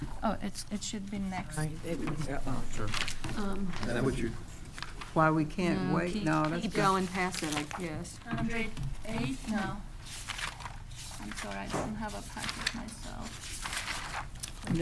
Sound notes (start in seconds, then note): 9.8 pages rustling